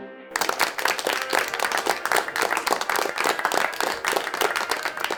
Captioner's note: audience applauds